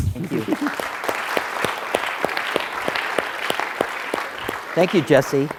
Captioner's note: applause